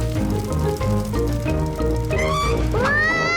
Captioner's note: tires screech